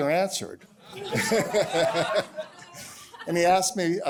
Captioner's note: laughter